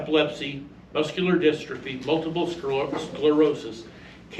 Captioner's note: stammers